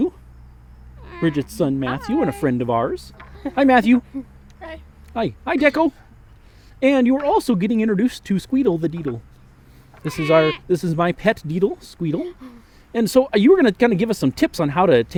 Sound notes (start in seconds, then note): 9.7 squawks